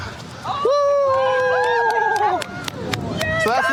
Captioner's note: cheering